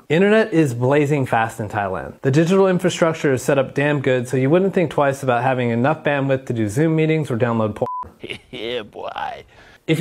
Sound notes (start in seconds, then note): 7.8 beep; 8.1 chef chuckling